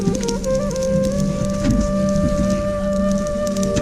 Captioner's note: sound of fire crackling